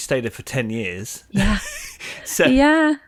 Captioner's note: chuckles